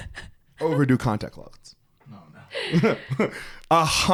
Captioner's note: both laughing